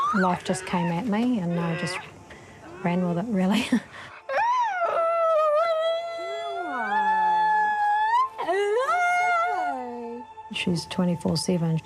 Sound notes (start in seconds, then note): 4.1 whimpers, whines